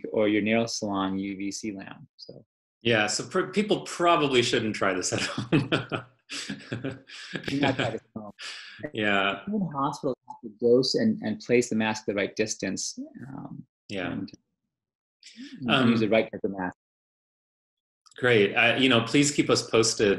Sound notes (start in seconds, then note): 5.1 laughter